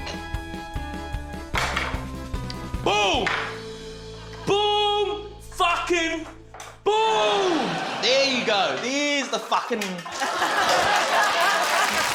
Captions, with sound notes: (KNIFE CLATTERS) Boom! Boom! Fucking boom! (LAUGHTER) There you go. There's the fucking... (LAUGHTER, APPLAUSE)